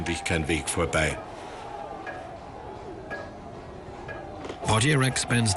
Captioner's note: hammering sound